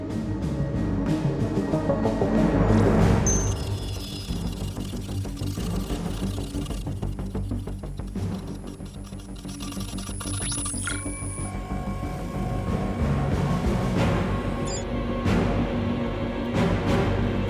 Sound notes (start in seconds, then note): 0.0 dramatic music; 3.6 device whirring; 11.0 device beeping; 13.7 dramatic music continues